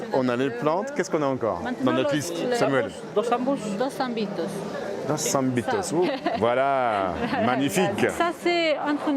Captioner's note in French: rires